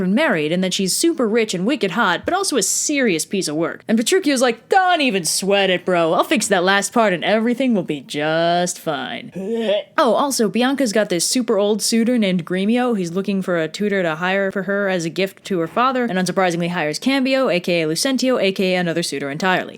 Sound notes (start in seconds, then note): 9.3 hurl